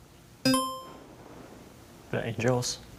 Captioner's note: buzzer chiming